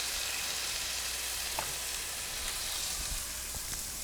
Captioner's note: pan sizzling